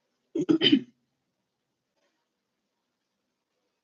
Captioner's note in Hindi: गला साफ़ करने की आवाज़